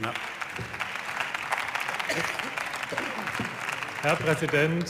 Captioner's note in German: Beifall